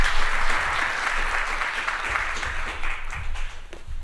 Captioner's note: applause